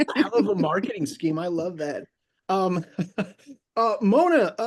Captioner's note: laughs; laughs